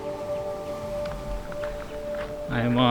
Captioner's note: birds calling; wind whooshing